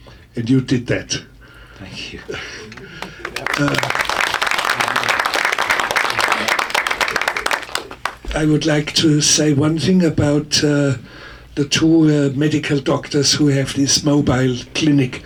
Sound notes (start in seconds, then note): 2.3 audience applauding